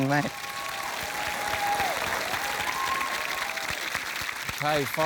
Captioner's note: cheering, applause